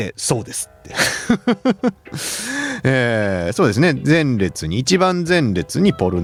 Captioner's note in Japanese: 笑い